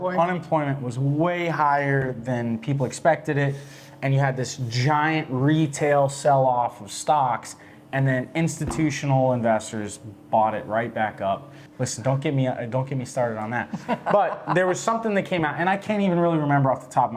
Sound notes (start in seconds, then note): 13.6 laughs